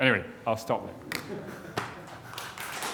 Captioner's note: chuckles; applause